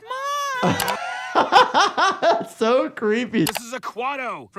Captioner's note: laughs